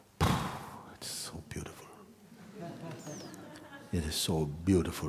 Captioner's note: laughter